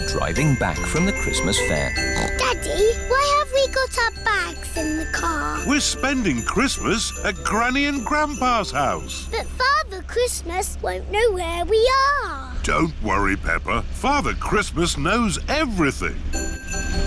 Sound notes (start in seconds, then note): 2.8 snorts